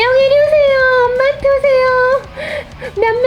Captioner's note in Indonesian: tertawa